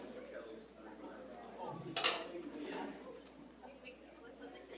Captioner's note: people chattering